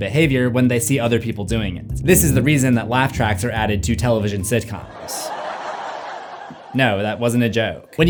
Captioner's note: laugh track